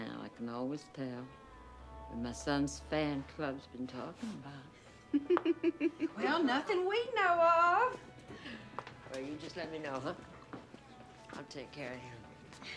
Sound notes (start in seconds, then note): 5.0 chuckling